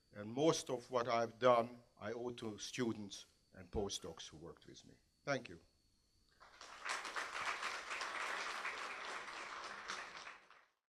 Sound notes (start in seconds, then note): 6.4 applause